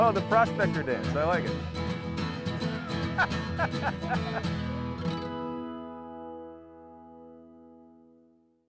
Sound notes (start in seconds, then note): 2.7 chuckles